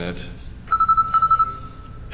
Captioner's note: ringing